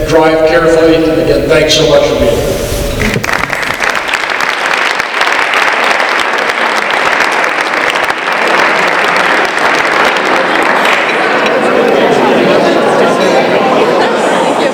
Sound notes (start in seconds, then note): 3.0 applause